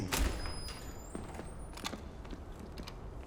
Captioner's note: door opens